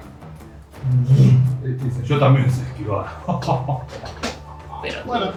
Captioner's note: laughs